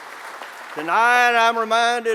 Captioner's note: applause